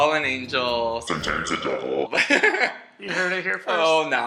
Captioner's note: voice distorts